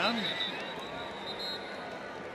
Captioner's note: whistle